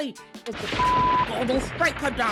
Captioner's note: beep